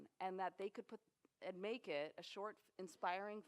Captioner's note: none